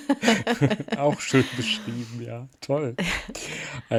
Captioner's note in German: gelächter